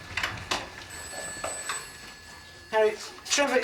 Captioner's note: phone ringing